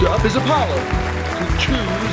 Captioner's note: applause